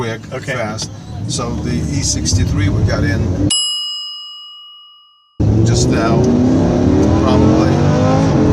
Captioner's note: bell dings